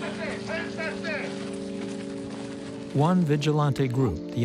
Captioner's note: in Spanish